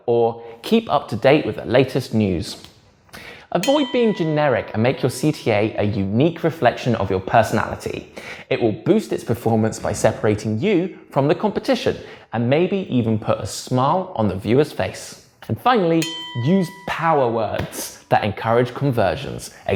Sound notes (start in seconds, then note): 3.6 bell dings; 15.9 bell dings